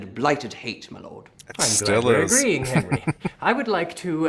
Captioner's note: chuckling